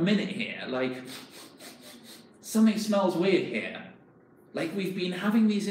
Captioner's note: sniffing